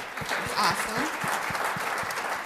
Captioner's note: applause